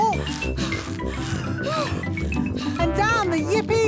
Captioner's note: puffing and panting